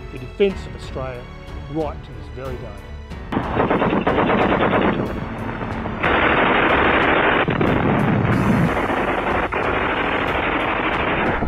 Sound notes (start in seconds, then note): 3.4 gunfire bangs; 7.7 explosion booms; 9.1 gunfire bangs